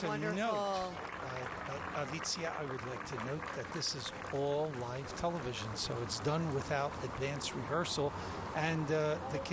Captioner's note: cheers and applause